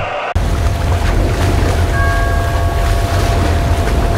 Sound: buoy bell

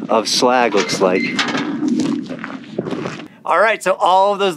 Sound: metal clanking

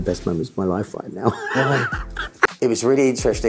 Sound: laughs

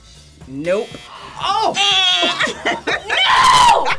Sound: imitates buzzer

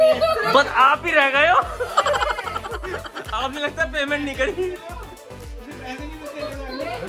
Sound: laughter

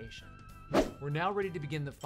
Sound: swoosh

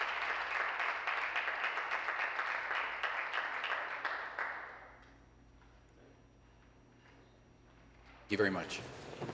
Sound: applause

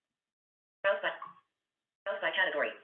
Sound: VoiceOver voice

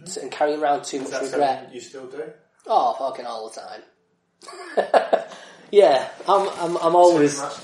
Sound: laughs

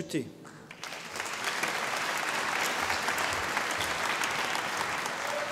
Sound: audience applauding

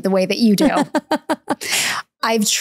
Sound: laughing

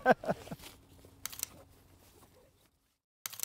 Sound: laughter

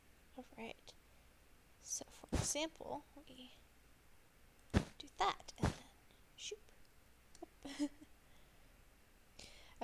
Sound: laughs

